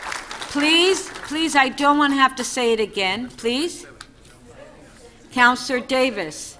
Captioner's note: applause